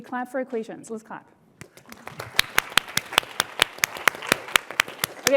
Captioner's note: applause